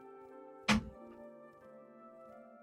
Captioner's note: door clicks